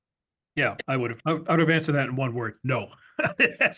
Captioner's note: laugh